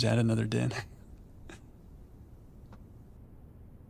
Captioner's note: chuckles